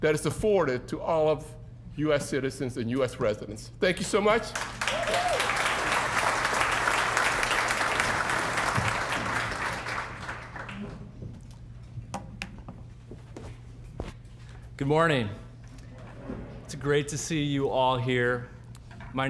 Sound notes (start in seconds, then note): 4.4 applause